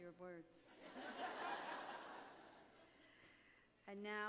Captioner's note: laughter